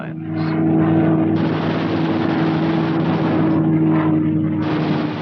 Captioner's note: guns firing